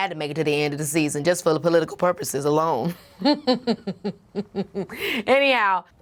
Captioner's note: chuckles